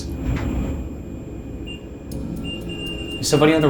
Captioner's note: REM-Pod beeping